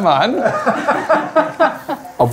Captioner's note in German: Lachen